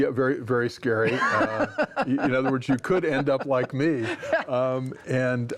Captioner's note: laughs